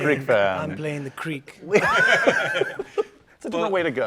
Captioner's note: laughter